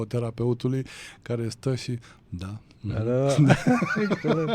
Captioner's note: laughter